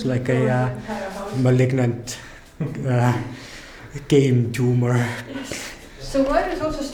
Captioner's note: chuckles